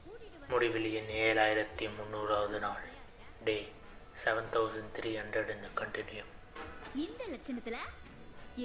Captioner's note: recording M7300 starts playing on phone